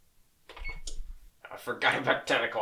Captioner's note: beep, click